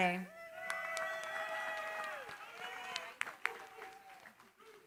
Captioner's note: cheering, applause